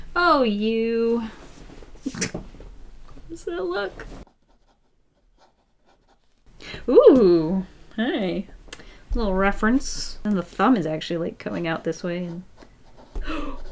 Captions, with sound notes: Oh you! [Short laugh] How does that look? Whoo, hey! Little reference and the thumb is actually coming out this way.